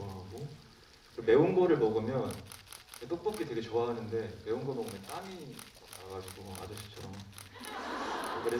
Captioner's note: laughs